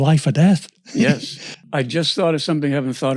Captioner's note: laughs